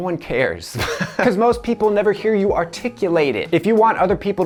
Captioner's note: laughs